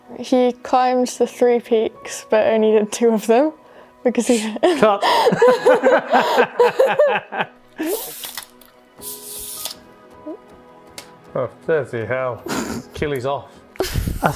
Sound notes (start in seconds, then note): 4.3 laugh; 13.8 laughs